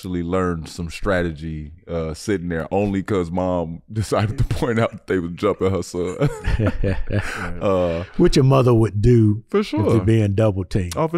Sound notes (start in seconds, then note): 5.9 chuckling